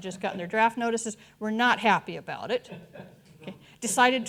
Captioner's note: audience chuckling